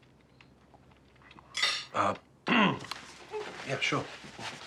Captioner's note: fork clattering